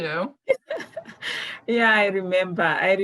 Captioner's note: laughs